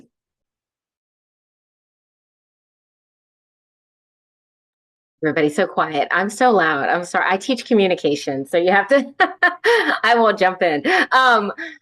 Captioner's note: laughing